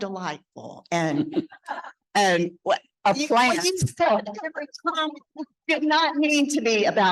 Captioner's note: speaking faintly